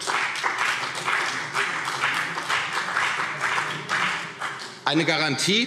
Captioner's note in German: Beifall CDU und BÜNDNIS 90/DIE GRÜNEN